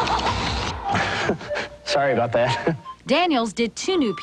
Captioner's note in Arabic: يضحك